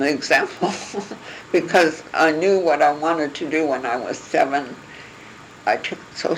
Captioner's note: laugh